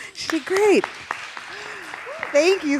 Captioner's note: audience applauding